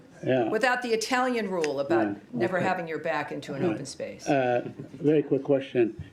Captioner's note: laughter